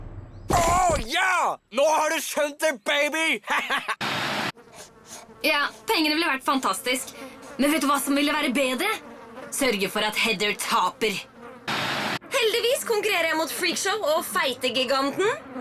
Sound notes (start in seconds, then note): 3.4 laughs